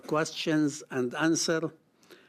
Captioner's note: speaking French